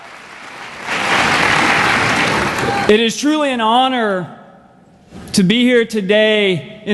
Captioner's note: applause